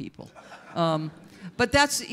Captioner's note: audience members laugh